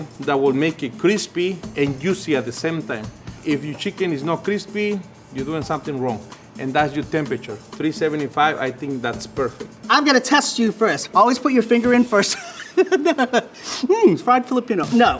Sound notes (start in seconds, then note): 12.2 laughs